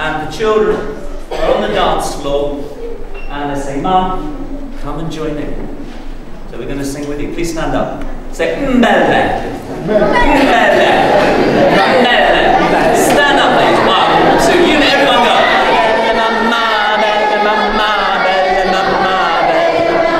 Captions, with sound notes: And the children are on the dance floor and they say, "Mum, come and join in." So we're going to sing with you, please stand up. Say (speaking in foreign language). Stand up, please, one, two, everyone go. (singing in foreign language)